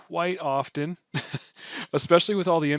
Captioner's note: chuckles